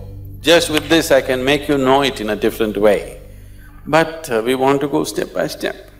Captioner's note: claps